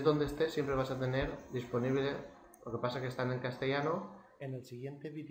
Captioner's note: spanish